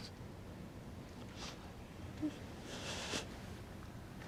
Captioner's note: child sniffles